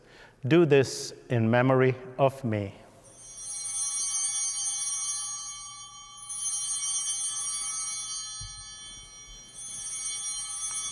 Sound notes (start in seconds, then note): 3.0 bell ringing